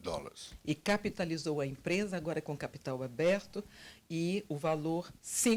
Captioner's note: translator speaking Portuguese